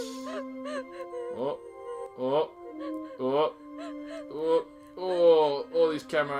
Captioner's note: nauseated groans